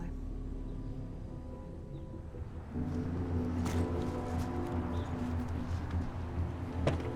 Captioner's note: slow ominous music; birds chirping